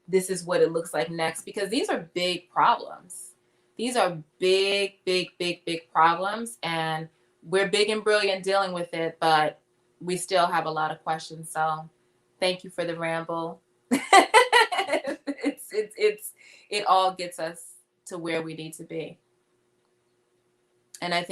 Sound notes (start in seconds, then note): 14.0 laughing